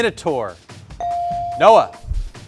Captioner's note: buzzer chimes